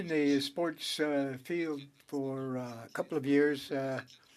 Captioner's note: speaking French